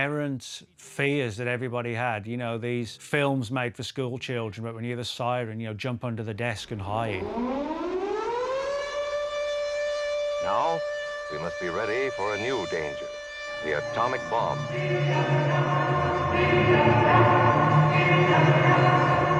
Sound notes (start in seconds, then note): 7.1 air raid siren